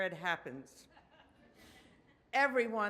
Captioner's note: audience laughs